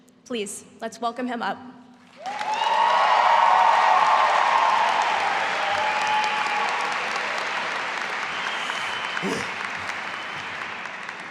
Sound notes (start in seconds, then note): 2.1 audience applauding and cheering